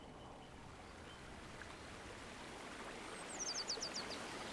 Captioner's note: stream burbles